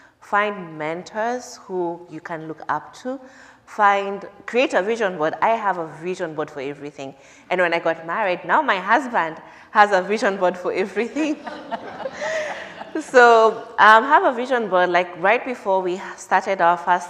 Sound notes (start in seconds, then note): 13.1 laughter